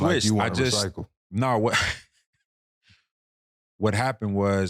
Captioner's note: laughing